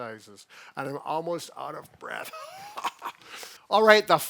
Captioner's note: fake coughing